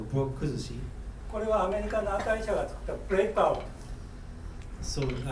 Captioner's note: speaking in foreign language